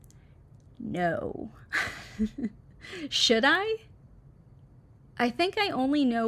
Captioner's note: chuckles